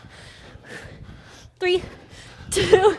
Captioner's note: breathes heavily; laughs